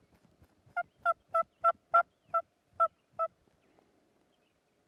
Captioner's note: turkey calling